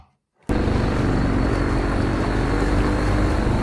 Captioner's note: speedboat engine